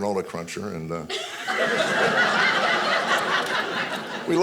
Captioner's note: audience laughing